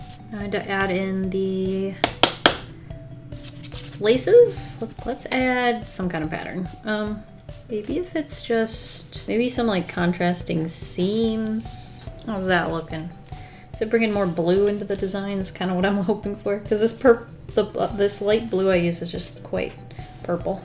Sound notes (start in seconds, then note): 2.0 Taps sharpie on book